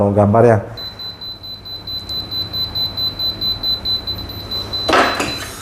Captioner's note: beeping sound; press machine noise